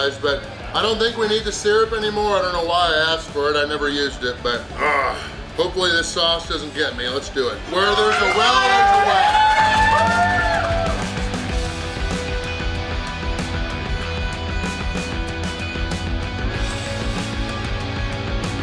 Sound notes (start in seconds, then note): 10.3 crowd cheers; 15.2 rock music continues